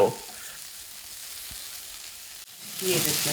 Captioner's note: frying